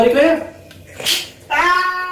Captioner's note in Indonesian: Pssh